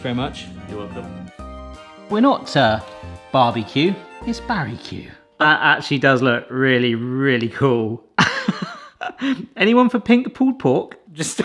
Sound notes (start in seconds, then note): 8.2 chuckles